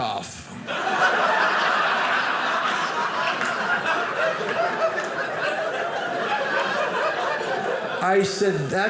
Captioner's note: audience laughing